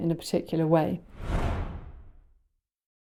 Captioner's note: transition sound